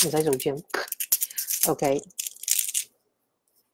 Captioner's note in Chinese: 帶鏈聲